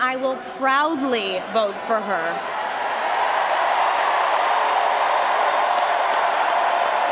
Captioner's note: cheering and applause